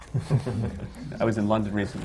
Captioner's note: laughter